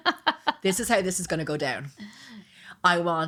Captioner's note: laughing